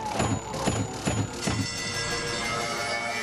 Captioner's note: bell dinging